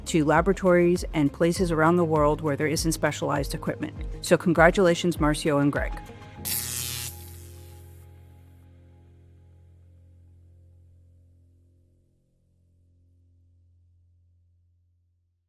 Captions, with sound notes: to laboratories and places around the world where there isn't specialized equipment. So, congratulations, Marcio and Greg. (electricity sizzling)